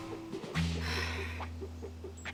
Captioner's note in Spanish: Suspiro profundo